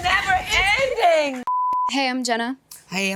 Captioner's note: screen beeping